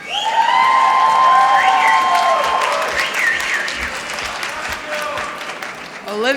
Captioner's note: applause